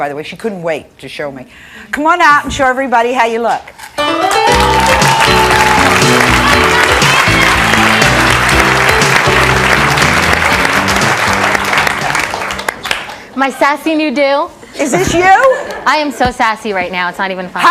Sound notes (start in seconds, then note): 3.9 jazzy music; 4.0 audience clapping